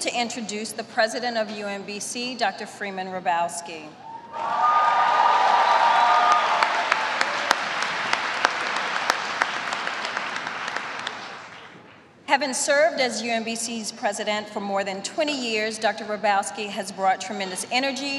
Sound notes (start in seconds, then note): 5.0 applause